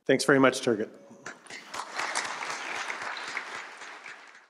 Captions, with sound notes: >> Great, thanks very much, Turgot. [APPLAUSE]